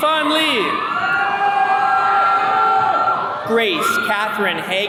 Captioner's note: attendees cheering